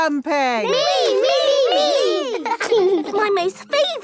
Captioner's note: laughing